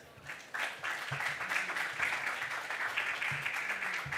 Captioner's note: audience applause